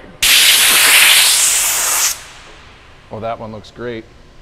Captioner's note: air pressure pumping